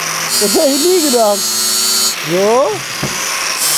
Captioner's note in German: Maschinenlärm